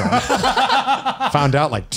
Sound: laughs

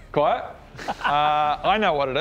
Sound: giggle

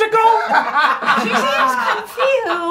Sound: laughing

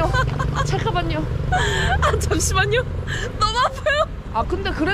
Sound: she's laughing at herself with what she said

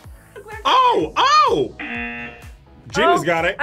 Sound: buzzer

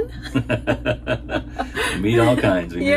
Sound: laughing

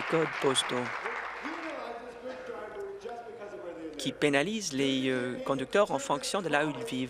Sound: applause

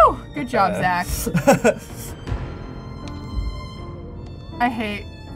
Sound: laughs

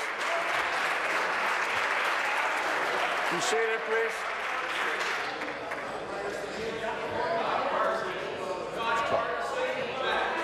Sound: applause

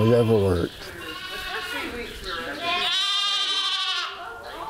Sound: sheep squealing

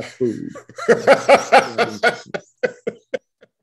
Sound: laughs

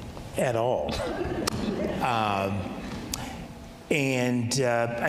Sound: audience laughing

